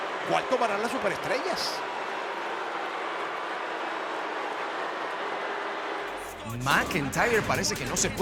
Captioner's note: applause